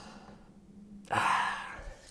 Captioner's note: exasperated sigh